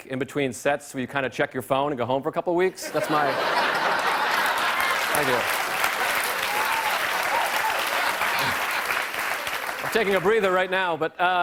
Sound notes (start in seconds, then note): 3.5 applause; 5.4 cheers and applause